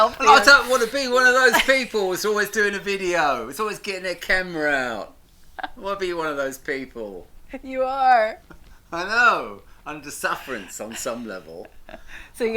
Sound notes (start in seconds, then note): 5.1 laughs